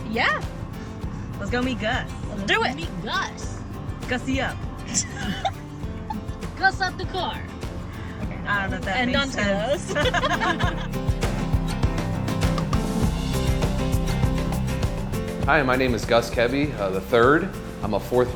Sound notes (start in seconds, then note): 4.8 laughs; 9.7 laughs